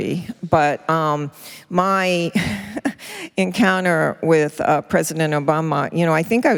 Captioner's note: chuckles